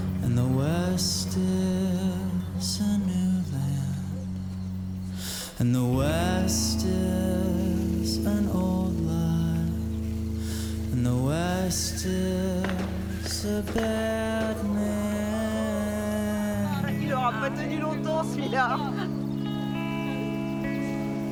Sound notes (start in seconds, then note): 12.6 ranged gun shooting; 17.2 shouting